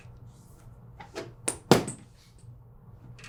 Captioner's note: squeakthud